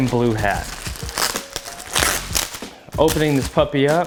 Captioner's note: package rustles